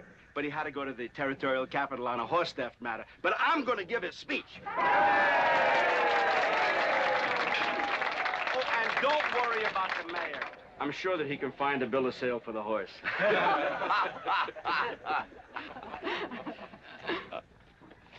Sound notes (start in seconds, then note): 4.7 audience cheering & applauding; 13.0 crowd laughing